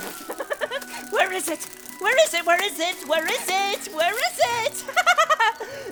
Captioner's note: giggling